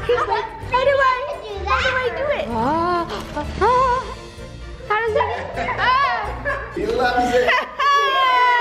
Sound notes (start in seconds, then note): 0.1 kids cheering; 7.2 cheerful laughing